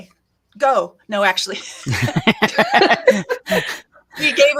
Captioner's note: everyone laughs